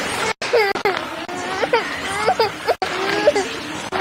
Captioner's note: baby crying